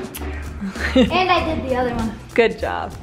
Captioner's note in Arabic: يضحك